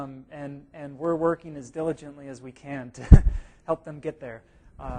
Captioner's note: chuckle